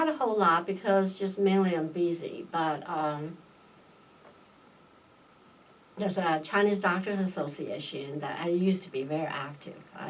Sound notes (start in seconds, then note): none